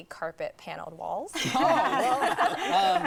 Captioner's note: laughing